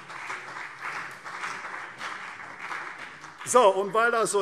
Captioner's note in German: Beifall CDU und BÜNDNIS 90/DIE GRÜNEN